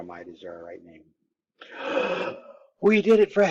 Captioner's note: excited Gasp